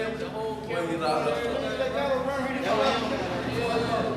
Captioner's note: shouting